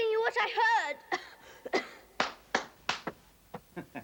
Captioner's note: clapping